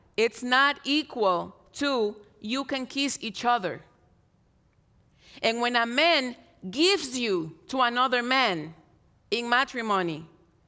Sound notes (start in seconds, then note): none